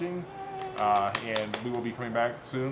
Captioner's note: clapping